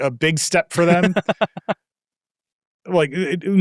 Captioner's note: laughing